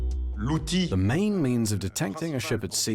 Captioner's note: voiceover